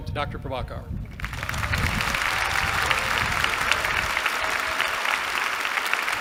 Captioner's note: applause